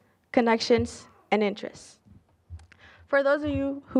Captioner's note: none